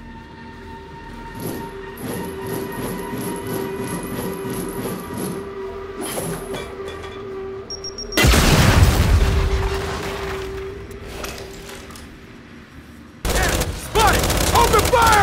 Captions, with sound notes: [gunshot] Damn it, Spud! Open fire!